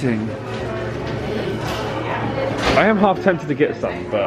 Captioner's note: indistinct chatters